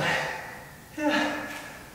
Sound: breath out

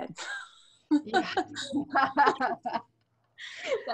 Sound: laughs

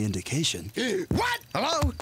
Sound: gasps

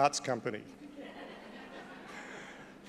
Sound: laughter

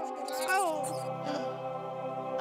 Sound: gibberish yelps; light exhale

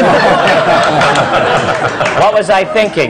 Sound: laughter

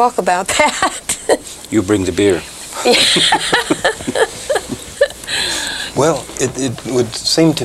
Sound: laughs

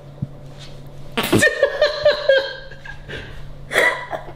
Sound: laughing

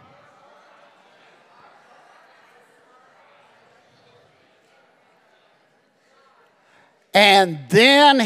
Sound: congregation chattering

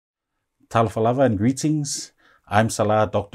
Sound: non-english speech

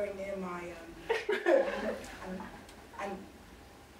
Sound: audience laughing

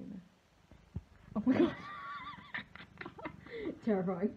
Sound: laughs

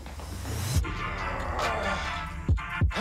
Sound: grunting

